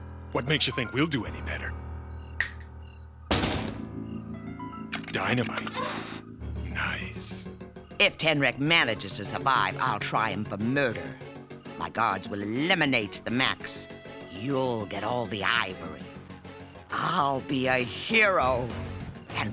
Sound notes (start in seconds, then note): none